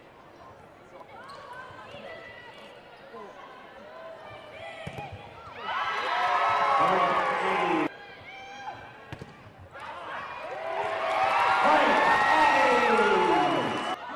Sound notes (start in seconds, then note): 5.5 cheering